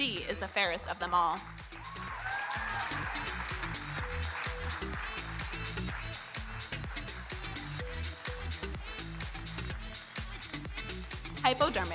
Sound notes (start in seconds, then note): 1.5 audience cheering and applauding; 7.9 electronic dance music